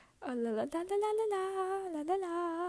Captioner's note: none